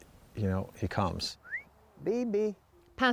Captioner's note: whistling